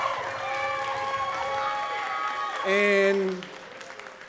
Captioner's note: audience cheering and clapping